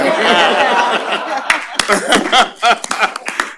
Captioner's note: applause